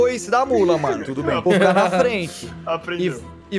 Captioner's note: laughs